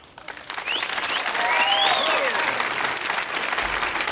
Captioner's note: audience applauding